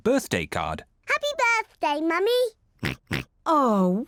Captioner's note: oinks